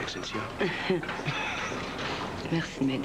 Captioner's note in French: Rires